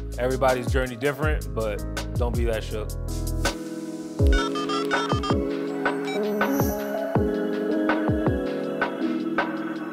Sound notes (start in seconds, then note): 4.4 phone dialing; 6.4 upbeat music